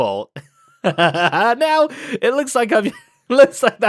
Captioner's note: laughs